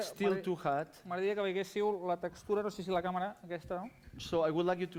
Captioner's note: non-english speech